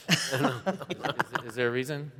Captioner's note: chuckling